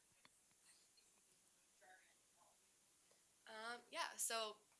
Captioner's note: speaks muffled faintly